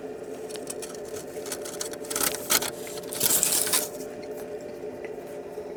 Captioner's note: more foil noises